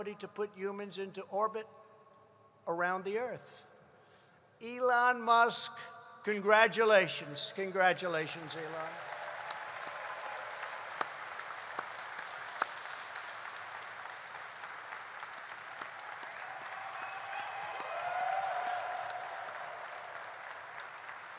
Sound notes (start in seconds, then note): 11.8 applause